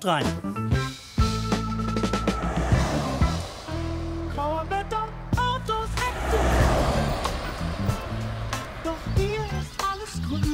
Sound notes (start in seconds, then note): 0.4 jazzy music; 6.5 traffic noise, jazzy music